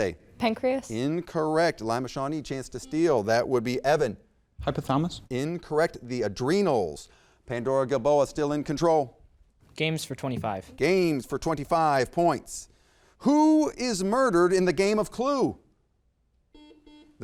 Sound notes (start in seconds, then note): 3.1 buzzer beeps; 16.5 buzzer beeps